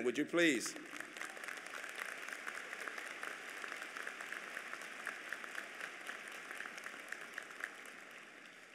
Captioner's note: applause